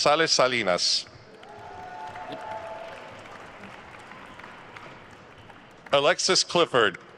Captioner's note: attendees cheering and applauding